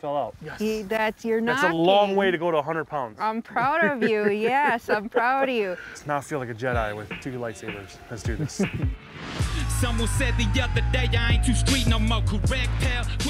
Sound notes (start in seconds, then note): 5.5 laughing; 8.2 upbeat pop music